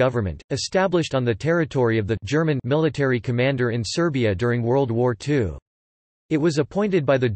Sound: German

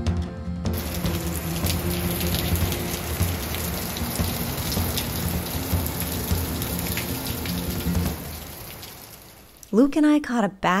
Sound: rain Falling

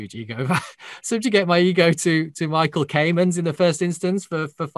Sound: chuckles

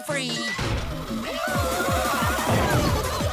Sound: cheering

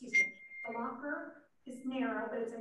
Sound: message ding

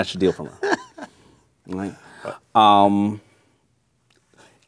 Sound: laughing

